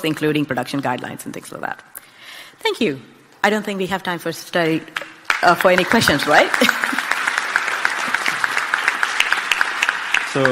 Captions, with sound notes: including production guidelines and things like that. Thank you. I don't think we have time for any questions, right? (clapping)